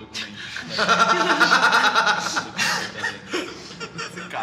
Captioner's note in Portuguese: rindo